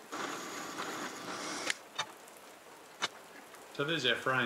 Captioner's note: drill whirring shrilly